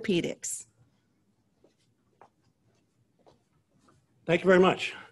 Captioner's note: silence